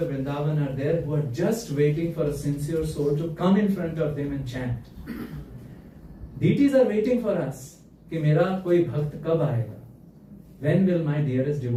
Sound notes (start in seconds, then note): 4.9 clears throat